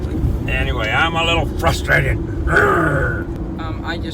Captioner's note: gruñe